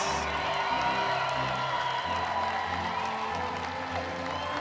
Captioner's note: attendees applauding